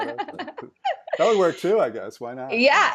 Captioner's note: laughing